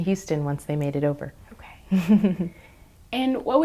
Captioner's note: chuckles